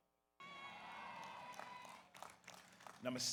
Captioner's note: audience cheers